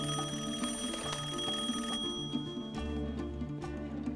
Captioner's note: rings